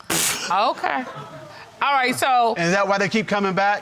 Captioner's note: laughing